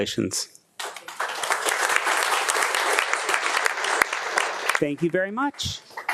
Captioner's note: attendees clapping